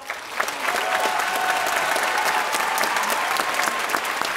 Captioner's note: audience applauding